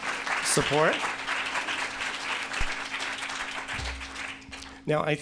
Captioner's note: audience applauds